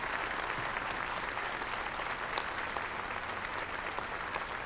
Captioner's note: applause